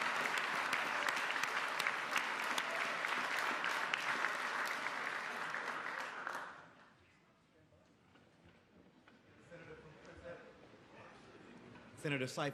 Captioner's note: applause